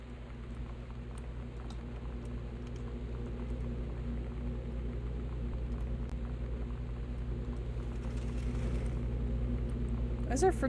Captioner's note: loud Humming